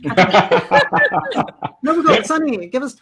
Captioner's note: laughter